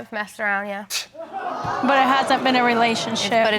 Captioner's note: audience exclaiming